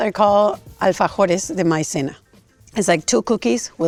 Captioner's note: speaking in Spanish